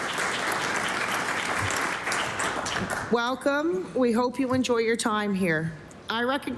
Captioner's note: applause